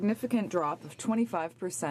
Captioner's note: speaking French